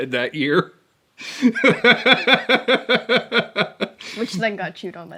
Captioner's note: continues laughing